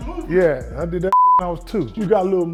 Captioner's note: beep